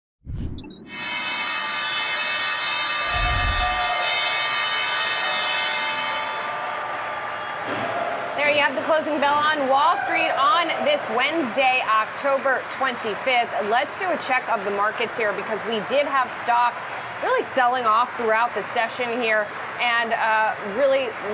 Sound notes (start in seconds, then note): 2.6 bell ringing